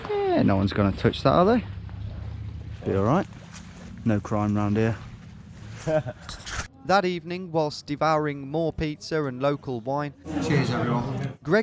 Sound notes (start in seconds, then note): 5.7 laughing